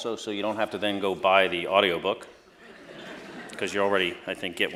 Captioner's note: laughter